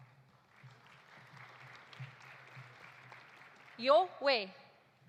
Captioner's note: audience applauding